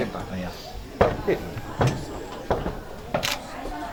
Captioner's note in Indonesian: mengetuk pintu